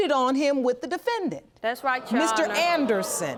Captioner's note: audience gasping